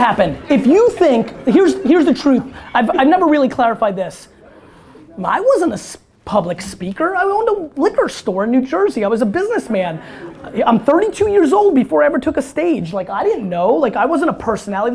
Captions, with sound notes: If you think, here's, here's the truth, I've never really clarified this. I wasn't a public speaker, I owned a liquor store in New Jersey, I was a businessman. (audience laughter) I'm 32 years old before I ever took a stage. Like, I didn't know, like, I wasn't a personality.